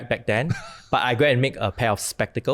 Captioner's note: laughs